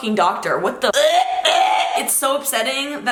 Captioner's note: gagging